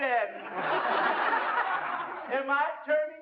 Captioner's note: laughter